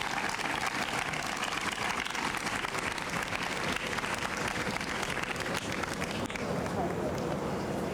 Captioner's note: applause